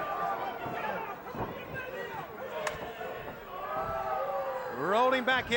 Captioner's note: crowd clamoring